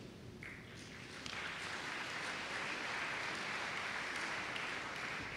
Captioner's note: applause